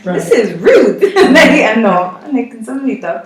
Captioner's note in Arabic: ضحكات